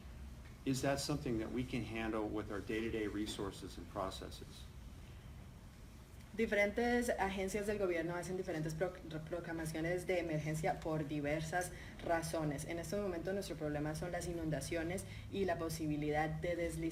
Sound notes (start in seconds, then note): 6.4 speaking in Spanish